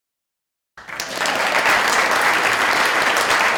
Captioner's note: applause